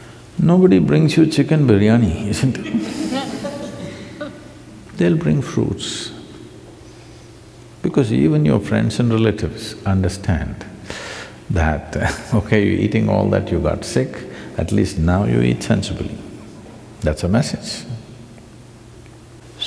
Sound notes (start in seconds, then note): 2.5 few laugh; 11.7 laughs